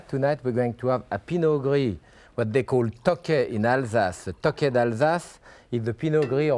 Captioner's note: speaks a foreign language